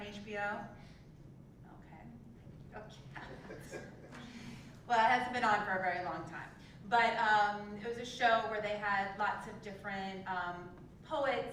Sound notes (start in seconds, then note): 3.5 laugh